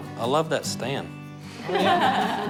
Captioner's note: laughter